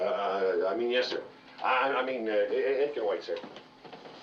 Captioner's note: stutters